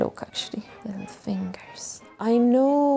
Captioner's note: whispers